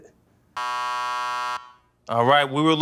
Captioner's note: buzzer